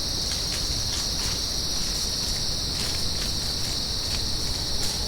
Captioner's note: insects chirp; footsteps fall